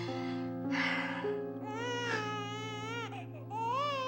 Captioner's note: crying continues